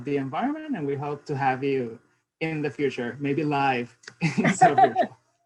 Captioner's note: laughs